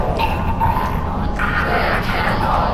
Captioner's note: Clarence choking